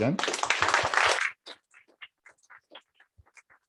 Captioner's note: applause